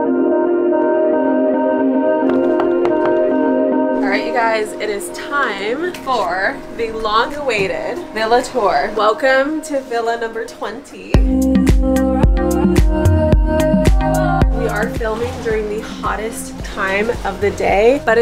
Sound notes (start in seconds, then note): 2.8 knocking on door; 11.1 upbeat lo-fi music